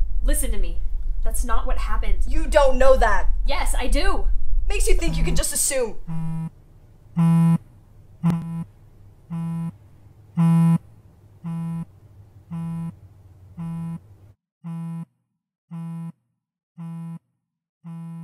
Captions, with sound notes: Listen to me. That's not what happened. You don't know that! Yes I do! WHAT MAKES YOU THINK YOU CAN JUST ASSUME- *phone buzzing*